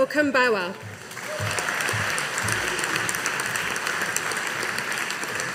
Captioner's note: audience applauding